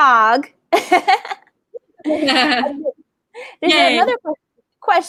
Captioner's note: laughing